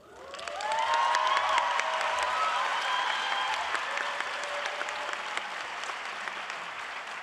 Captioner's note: audience applauds